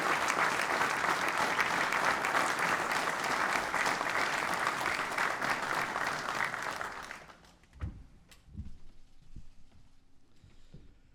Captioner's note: applause